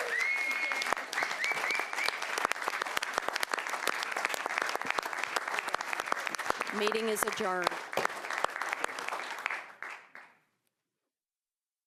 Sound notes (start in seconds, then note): 5.5 applause